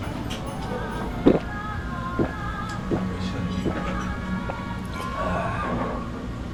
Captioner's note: gulping voraciously